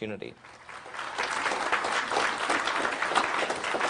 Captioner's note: clapping